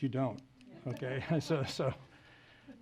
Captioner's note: laughs